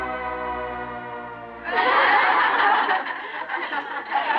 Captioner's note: laughing